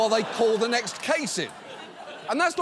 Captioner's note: audience laughs